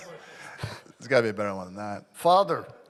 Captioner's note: laughing